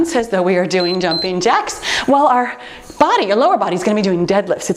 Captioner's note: timer beeps